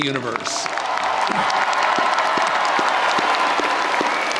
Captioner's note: audience applauding